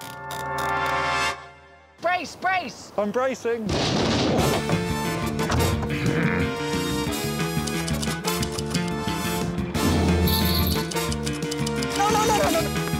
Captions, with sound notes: Brace, brace! -I'm bracing. -[boat thumps] [theme music playing] [typewriter clacking] [drumming and jingling] No, no, no, no...